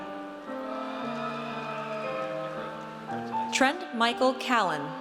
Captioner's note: audience cheers